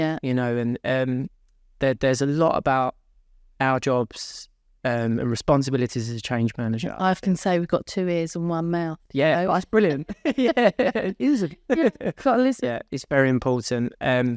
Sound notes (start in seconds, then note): 10.0 laughing